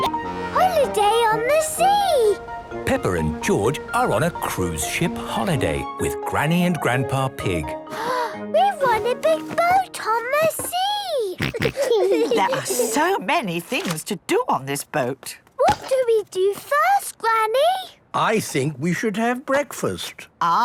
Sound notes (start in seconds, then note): 7.9 gasps; 11.3 snorts, giggles